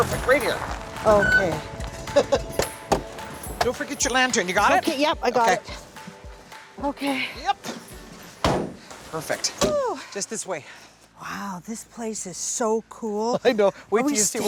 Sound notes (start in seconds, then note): 2.0 laughing